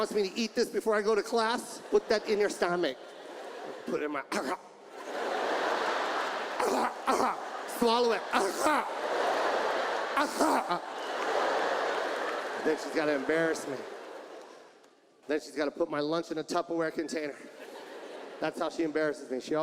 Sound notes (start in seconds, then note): 0.0 audience laughs; 4.5 imitates choking; 5.3 audience laughs; 6.5 imitates choking; 8.5 audience laughs